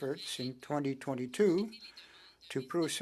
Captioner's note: speaking French